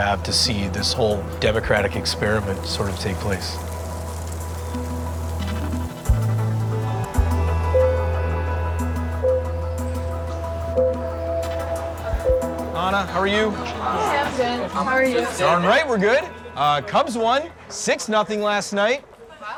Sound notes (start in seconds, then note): 5.0 soft music; 7.9 bell tolls